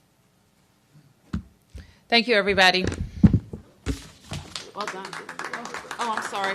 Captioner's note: applause